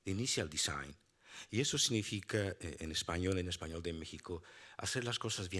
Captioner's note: speaking Spanish